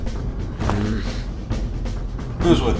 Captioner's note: grumbles